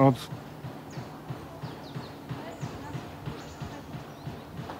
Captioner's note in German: Hämmern